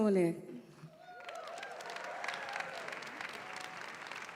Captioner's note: applause